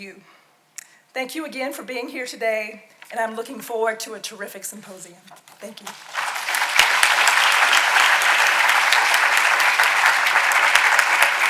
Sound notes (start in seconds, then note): 5.9 audience applauding